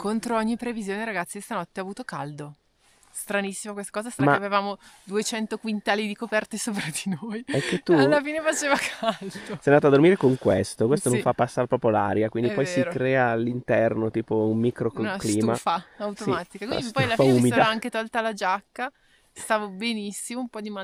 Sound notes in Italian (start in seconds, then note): 7.5 risate